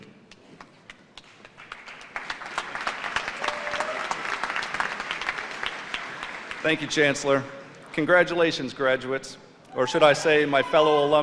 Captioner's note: applause